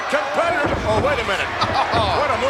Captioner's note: chuckles